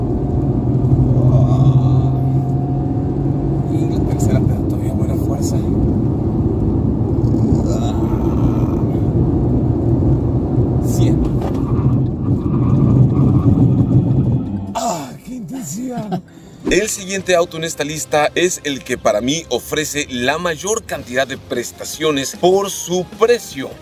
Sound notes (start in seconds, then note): 0.1 engine revving; 1.0 groans; 5.6 engine revving; 11.5 squealing tyres; 14.6 gasps